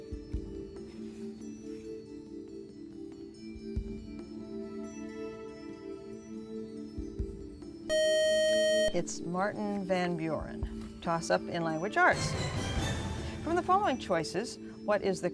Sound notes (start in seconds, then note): 7.9 buzzer